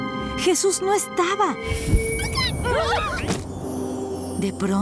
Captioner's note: whoosh